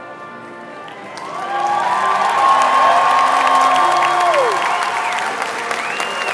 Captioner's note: all cheering and applauding